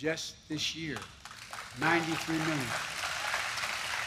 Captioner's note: applause